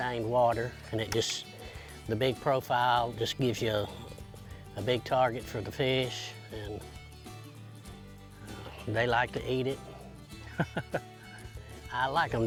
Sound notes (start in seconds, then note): 10.4 laughing